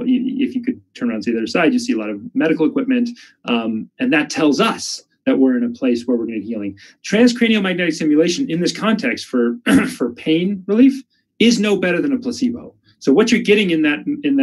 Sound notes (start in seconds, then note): 9.6 coughs